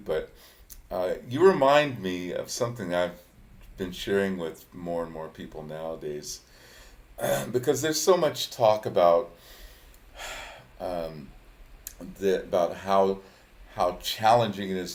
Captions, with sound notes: but you remind me of something I've been sharing with more and more people nowadays, because there's so much talk (sighs) about how challenging it is to be a musician.